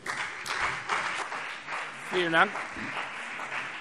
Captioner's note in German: Beifall BÜNDNIS 90/DIE GRÜNEN und CDU